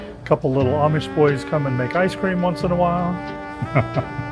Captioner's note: laughs